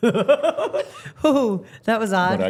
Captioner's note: laughing